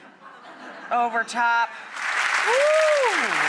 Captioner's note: audience laughs; audience applauds